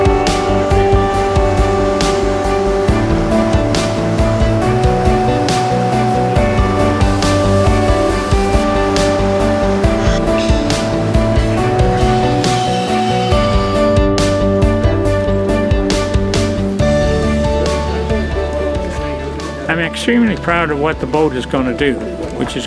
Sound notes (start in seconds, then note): 0.3 hopeful music; 10.1 power tools screeching